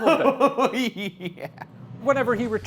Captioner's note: laughs